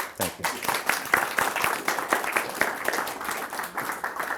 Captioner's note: audience applauding